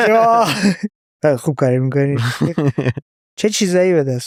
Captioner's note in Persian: خنده; خنده